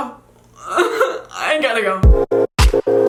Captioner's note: chuckles; upbeat music